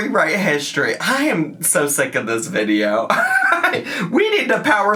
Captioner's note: laughs